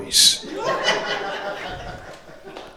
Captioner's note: crowd laughter